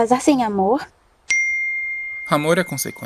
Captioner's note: message sound on cell phone